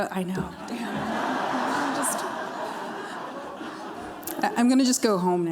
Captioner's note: laughter